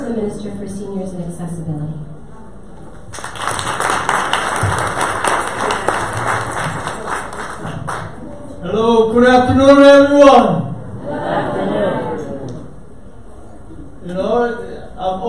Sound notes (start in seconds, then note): 3.0 audience applause